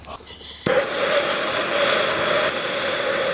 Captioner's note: torch sound